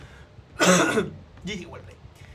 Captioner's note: Coughs in Spanish